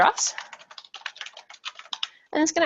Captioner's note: keyboard keys clacking